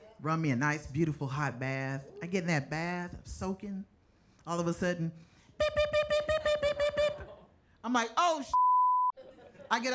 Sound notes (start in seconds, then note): 5.0 imitates alarm